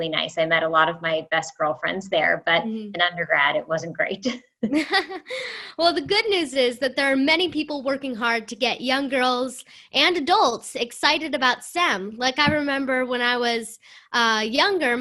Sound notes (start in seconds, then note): 4.6 laughter